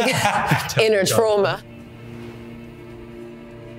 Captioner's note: laughs; dramatic music